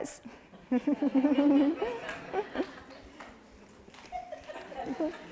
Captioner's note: audience chuckles